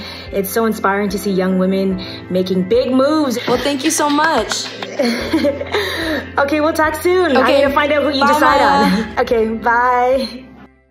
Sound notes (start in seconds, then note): 3.5 clapping; 5.2 laughs